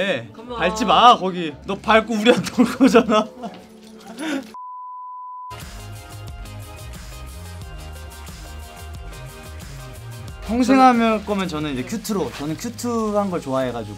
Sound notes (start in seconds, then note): 4.6 beep; 5.5 soft bright music